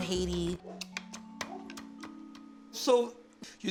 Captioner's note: knife chopping